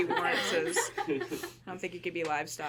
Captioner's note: people laughing